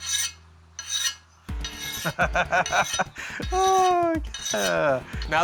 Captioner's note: laughing